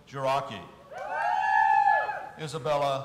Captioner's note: audience cheering